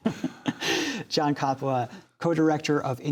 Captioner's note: laughter